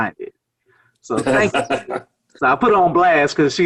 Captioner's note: laughs